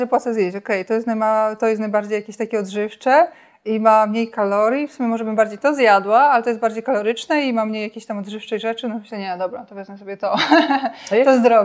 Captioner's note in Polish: śmiech